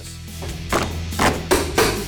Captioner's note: carpet ripping